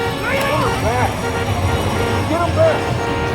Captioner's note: intense music; Tector shouts